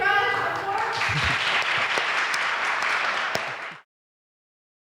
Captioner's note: audience applauding